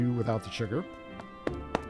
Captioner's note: tapping